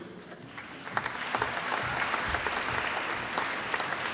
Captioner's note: applause